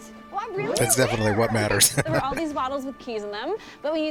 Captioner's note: chuckling